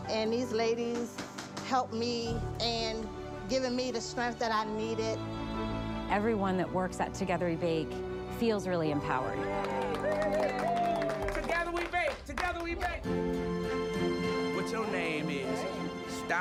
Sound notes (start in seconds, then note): 9.3 team applauds; 13.2 soft music